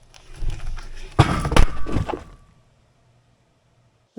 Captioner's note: wood thuds